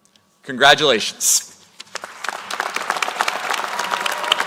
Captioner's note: applause